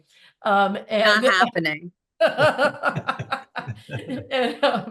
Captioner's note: all laughing